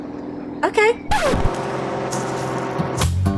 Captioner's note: record scratching; bright music